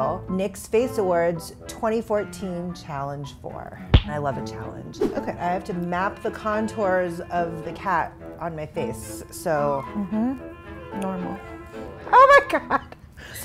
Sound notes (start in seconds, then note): 9.9 murmurs; 11.9 laughs